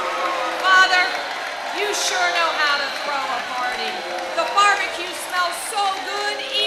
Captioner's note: applause